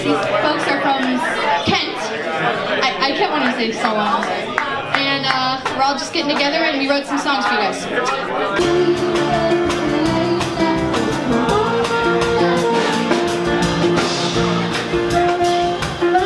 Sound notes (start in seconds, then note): 8.9 vibrant music; 10.1 background chatter